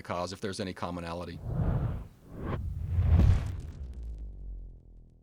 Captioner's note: swish; swoosh; buzzing; crackle